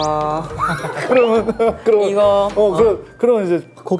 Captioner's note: asking for help in broken Japanese